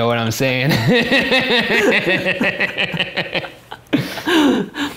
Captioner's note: laughter